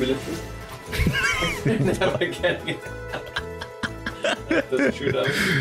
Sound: both laughing

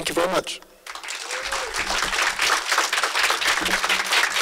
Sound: audience applauds

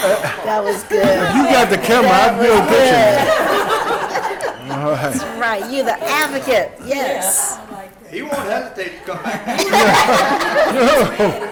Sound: laughter

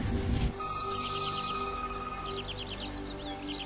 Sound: ringing

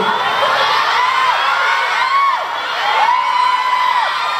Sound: screaming

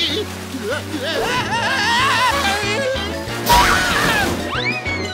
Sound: screaming

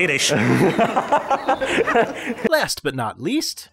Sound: laughing

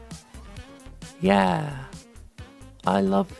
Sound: lightly, with sarcastic enthusiam

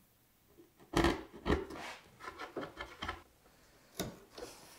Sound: hand tool scrapes

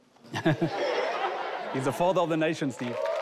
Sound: audience laughing

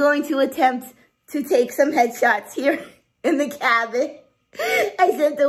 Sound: laughs

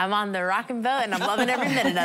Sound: laughter

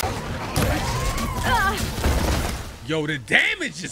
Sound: Aloy grunting

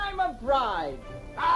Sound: groaning

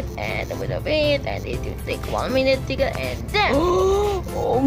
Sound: gasping

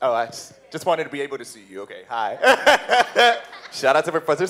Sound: laughs

